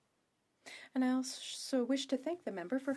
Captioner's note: speaking French